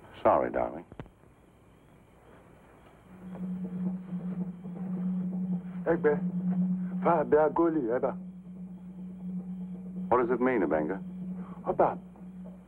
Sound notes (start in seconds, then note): 2.8 drums beating in distance; 5.8 speaking in foreign language